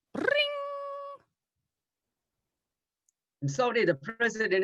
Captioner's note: imitates phone ringing